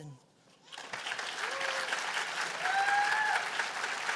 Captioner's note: cheers and applause